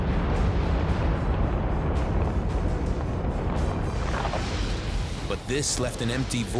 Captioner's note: explosions echoing